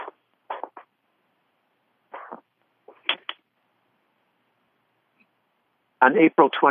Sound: pause, papers rustling

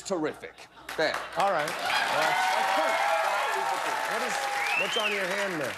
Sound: cheers and applause

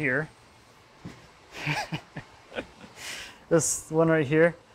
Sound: laughter

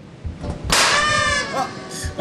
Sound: boom

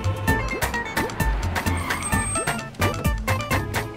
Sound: car halting

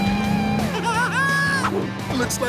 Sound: laughing

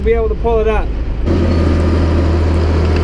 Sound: machine noises

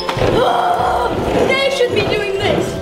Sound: vacuum whirring

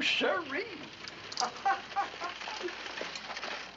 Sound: laughs

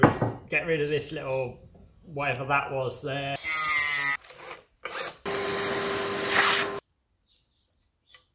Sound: angle grinder noise; other machine noises

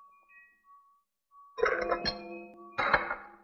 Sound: dishes clattering

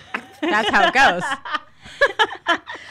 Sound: laughs

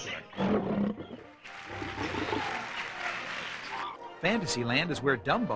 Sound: lion roars; audience clapping

